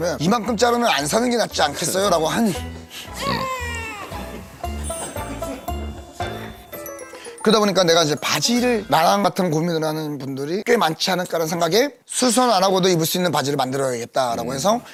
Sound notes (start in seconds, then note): 3.2 snort